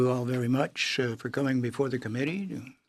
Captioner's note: speaking in French